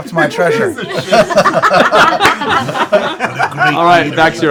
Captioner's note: laughter